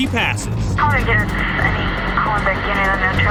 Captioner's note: police radio chatter